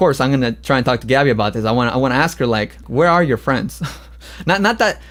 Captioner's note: laughs